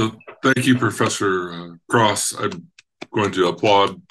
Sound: clapping hands

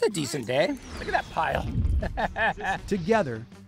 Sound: laughing

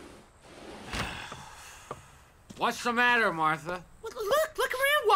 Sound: patio door opening; Walter sighing

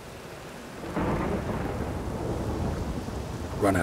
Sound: thunderclap

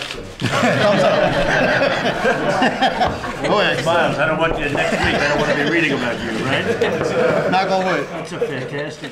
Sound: laughter

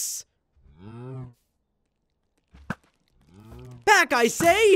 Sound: cows mooing

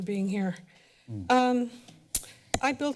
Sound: smacks lips

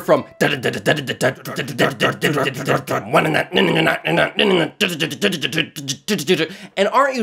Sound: spoken Imitation of Heavy Metal

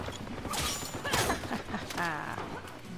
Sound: evil Laugh

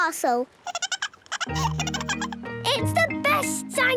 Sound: giggling

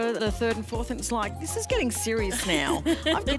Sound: Alyson laughs

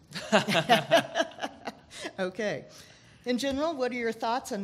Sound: laughing

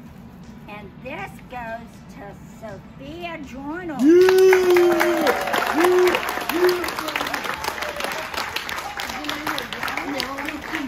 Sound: cheering

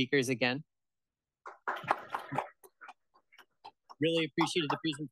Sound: applause

